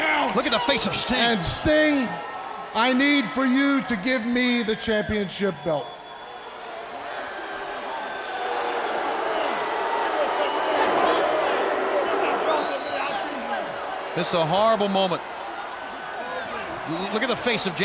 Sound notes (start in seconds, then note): 6.5 crowd cheering; 8.5 crowd chatter